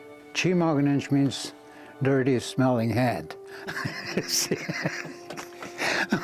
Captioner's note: laughing